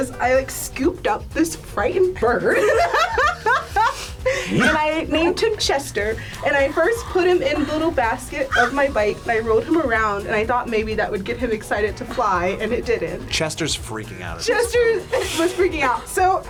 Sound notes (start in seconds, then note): 2.7 laughs